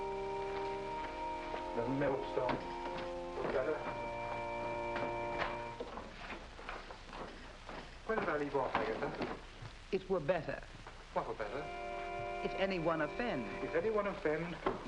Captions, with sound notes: "If anyone offend one of the weak who believe in me, "it were better for him... (knocking on door) "That a millstone. "It were better." Where did I leave off, Agatha?